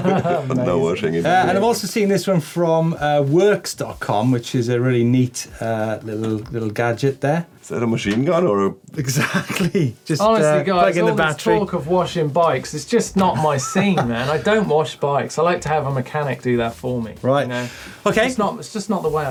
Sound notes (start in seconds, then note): 0.0 laughing; 9.1 laughs